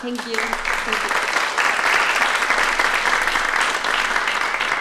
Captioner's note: applause